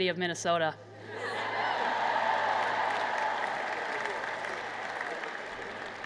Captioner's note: laughter, Cheering, and Applause